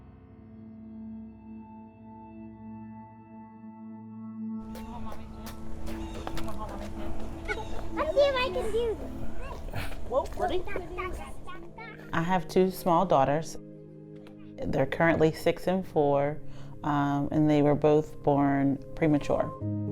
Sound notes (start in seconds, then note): 0.1 gentle music; 7.2 voices chattering; 19.7 gentle music